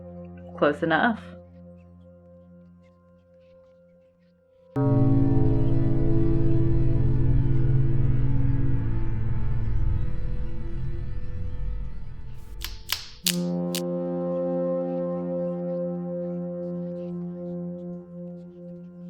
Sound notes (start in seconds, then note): 5.0 baleful music; 12.4 branches snapping